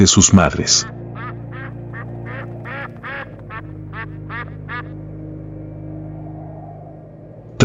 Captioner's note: laughs